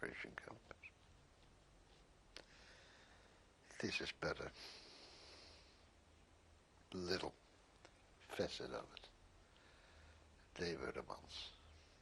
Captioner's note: pauses for 3 seconds